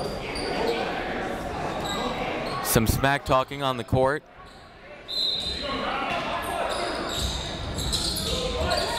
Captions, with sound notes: Some smack talking on the court. (whistle)